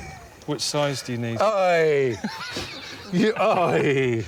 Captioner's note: both laughing